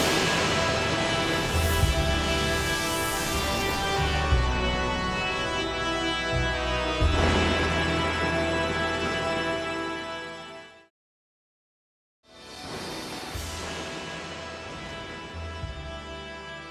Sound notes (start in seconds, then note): 0.2 dramatic music; 7.1 thunder rumbling